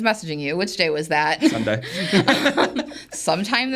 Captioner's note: everybody laughs